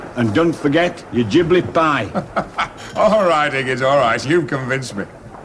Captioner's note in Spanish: Risas